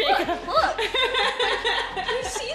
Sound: laughs

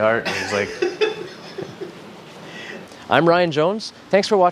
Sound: cameraman laughing

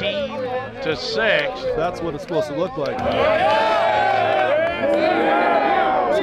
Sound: cheering

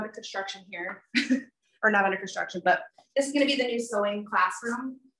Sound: chuckles

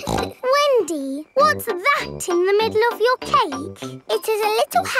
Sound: snorts

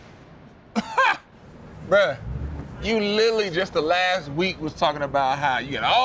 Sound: laughs

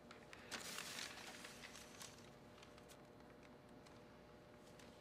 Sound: paper crumples

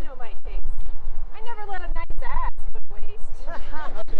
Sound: laughter

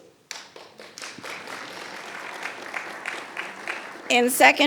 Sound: attendees applauding

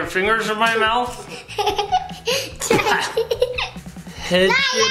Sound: laughs

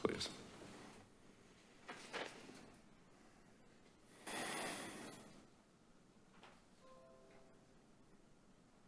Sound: silence

